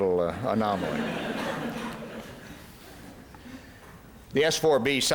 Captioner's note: laughter